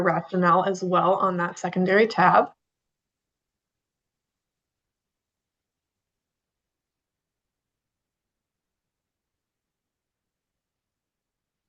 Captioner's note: pause